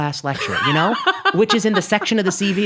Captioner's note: laughing